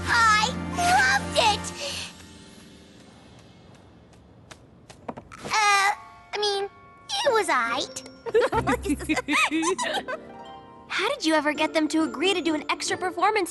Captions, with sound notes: I LOVED IT! Uh, I mean, it was all right. (giggle) How did you ever get them to agree to do an extra performance